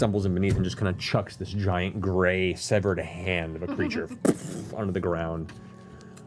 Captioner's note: thuds